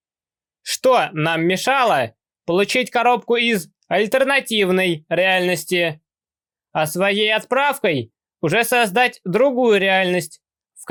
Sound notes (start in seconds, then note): none